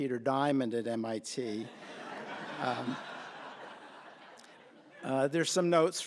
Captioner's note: laughter